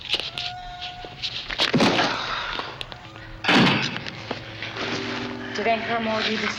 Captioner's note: groaning; thudding